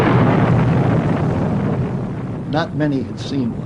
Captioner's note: explosion